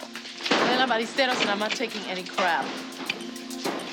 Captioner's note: spanish